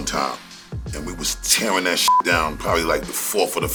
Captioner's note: beep